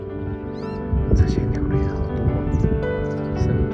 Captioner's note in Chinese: 小小聲